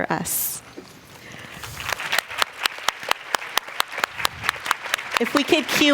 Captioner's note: applause